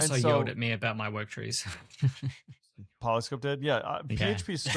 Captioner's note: laughs; laughs